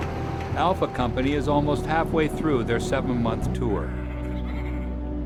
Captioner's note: voiceover